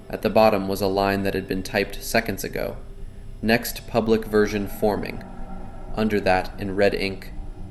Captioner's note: screaming